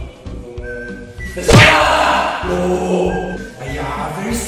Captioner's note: slaps